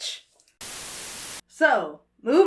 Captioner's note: static hisses